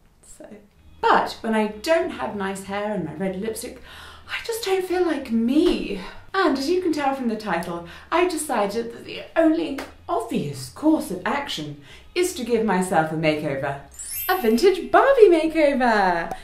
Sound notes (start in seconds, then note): 13.9 chimes